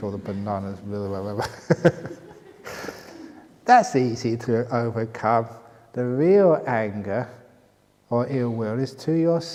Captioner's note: laughter